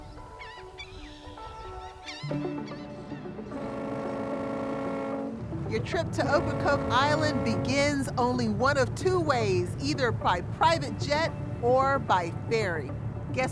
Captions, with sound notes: [sea birds chirping] [ferry horn blares] Your trip to Ocracoke Island begins only one of two ways, either by private jet or by ferry.